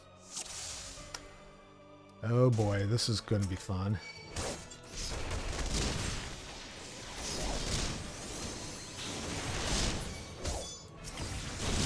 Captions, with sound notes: Oh boy, this is gonna be fun. [gunfire]